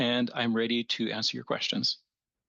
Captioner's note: speaking French